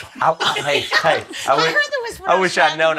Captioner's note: laughs